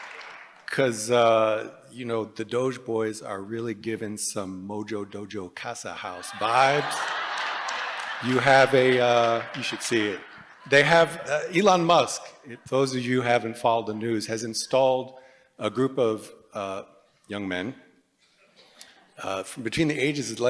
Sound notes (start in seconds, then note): 6.1 laughter